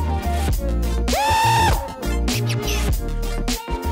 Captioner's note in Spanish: grito